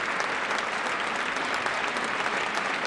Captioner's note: applause